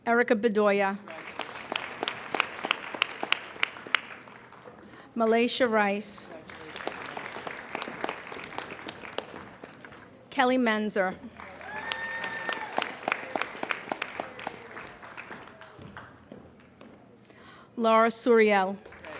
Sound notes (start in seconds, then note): 1.0 applauding; 18.7 applauding